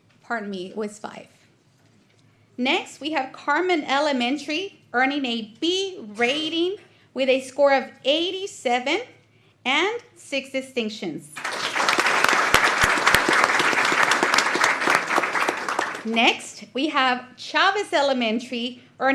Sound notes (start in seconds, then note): 14.0 applause